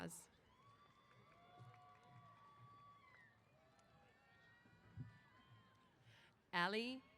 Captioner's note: applause & Cheers